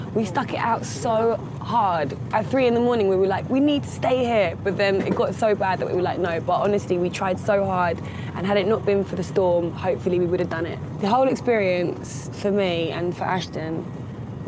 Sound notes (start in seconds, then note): none